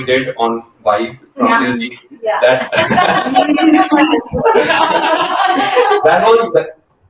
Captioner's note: laughter